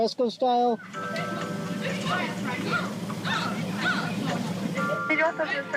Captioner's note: elevator music; people arguing